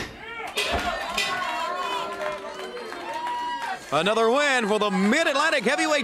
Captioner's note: crowd cheering